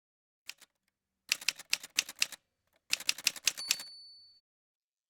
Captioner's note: typewriter sounds